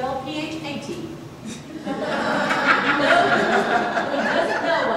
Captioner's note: audience laughter